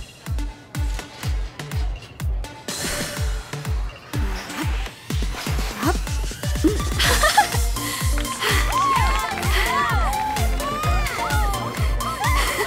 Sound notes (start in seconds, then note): 0.1 upbeat music; 7.8 girls applaud